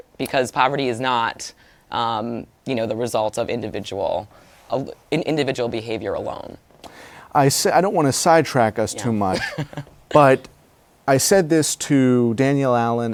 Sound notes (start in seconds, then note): 9.0 laughs